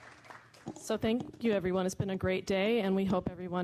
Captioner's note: applause